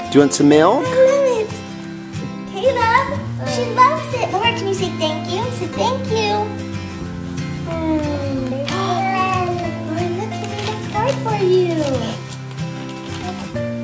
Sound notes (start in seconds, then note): 6.5 gasps